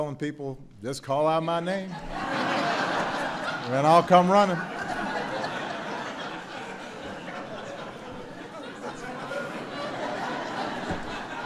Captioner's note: laughter